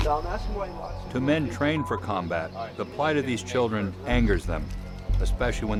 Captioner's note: voiceover